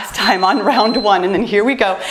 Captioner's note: timer beeps